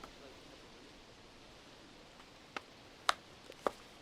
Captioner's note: people chattering